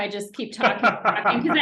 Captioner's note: laughing